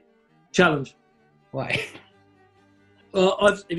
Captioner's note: laughs